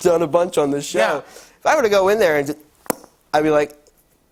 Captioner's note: pops lips